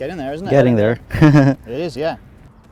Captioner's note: laughs